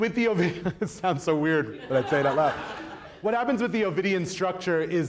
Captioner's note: laughs